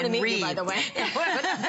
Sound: laughter

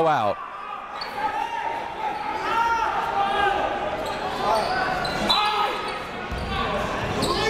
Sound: crowd talking; coaches yelling

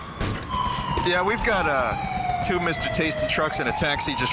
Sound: imitating CB radio

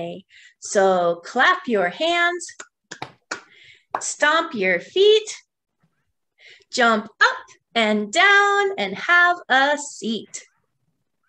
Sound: claps hands

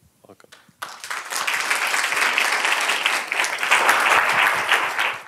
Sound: applause

